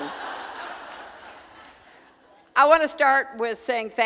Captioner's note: audience laughing